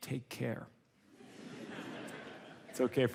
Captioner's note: audience laughs